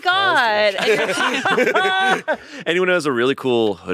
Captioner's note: all laughing